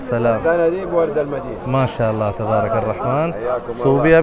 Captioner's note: Arabic